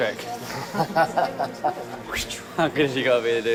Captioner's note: man laughs